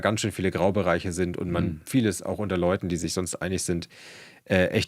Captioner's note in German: räuspern